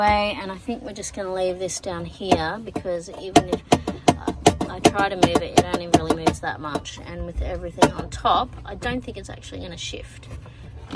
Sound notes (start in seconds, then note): 2.0 relay taps rhythmically against metal